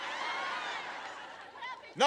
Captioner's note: laughter